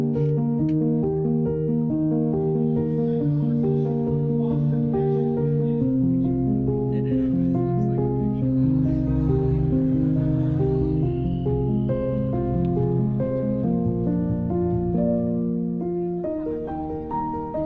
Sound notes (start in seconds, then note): 6.8 group chattering; 11.8 upbeat music